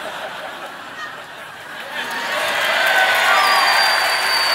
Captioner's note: audience cheering